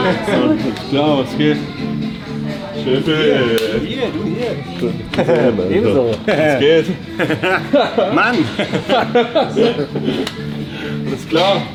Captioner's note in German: gelächter